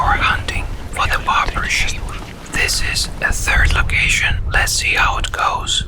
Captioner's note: whispers